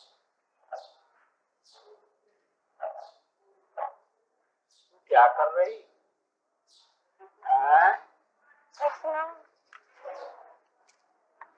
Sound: Hindi

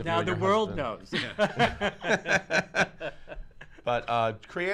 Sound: laughs

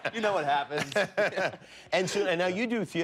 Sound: laughter

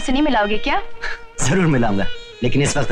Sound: sighs

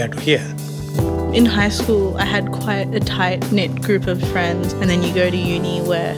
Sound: voiceover

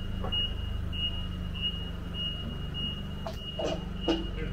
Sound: forklift beeping

